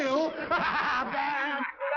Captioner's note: laughter